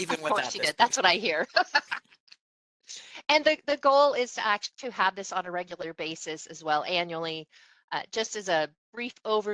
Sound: laughing

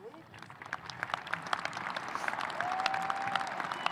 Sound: audience applauding

